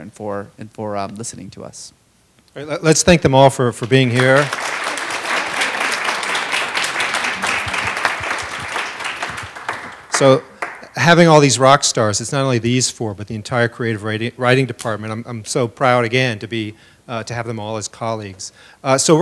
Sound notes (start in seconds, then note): 6.0 applause